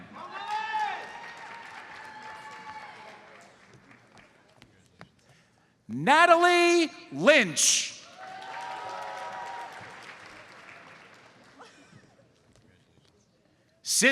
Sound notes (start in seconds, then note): 0.4 audience applauds; 8.0 audience applauds